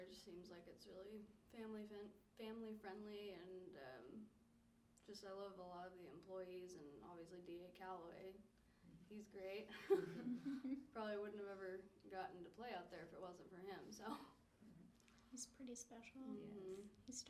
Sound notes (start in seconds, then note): 9.8 laughing; 14.9 laughs